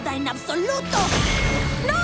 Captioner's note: zap